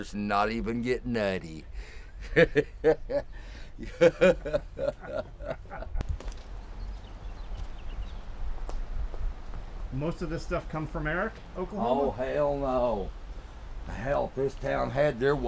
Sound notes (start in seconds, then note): 1.9 creepy laughing